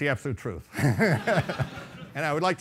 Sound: laughing

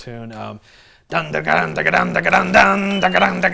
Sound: mouths guitar sounds

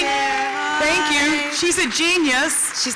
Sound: applause

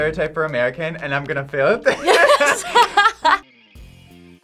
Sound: laughs

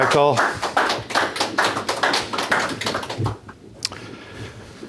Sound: audience applauds

